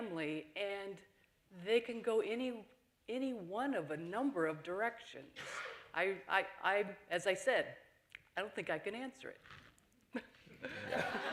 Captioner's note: laughter